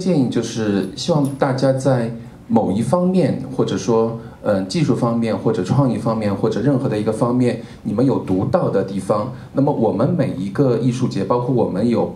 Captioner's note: speaking Mandarin